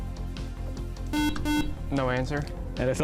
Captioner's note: buzzer